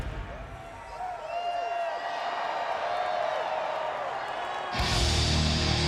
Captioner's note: crowd cheering; energetic rock music